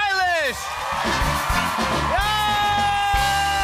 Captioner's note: cheers and applause